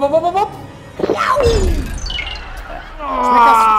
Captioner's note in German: Schluckgeräusch